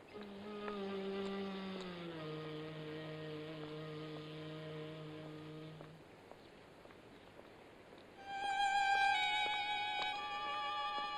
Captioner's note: footsteps; foreboding music